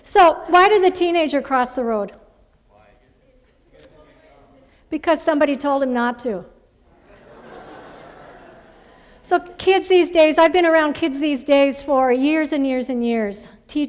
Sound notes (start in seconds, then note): 6.9 laughter